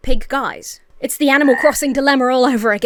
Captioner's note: frog croaks